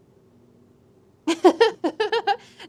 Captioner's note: quiet Laugh